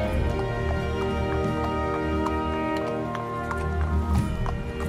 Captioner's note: hooves clomping